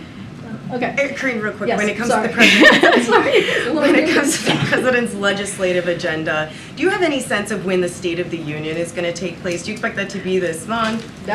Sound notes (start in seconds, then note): 2.4 laughs; 2.4 laughter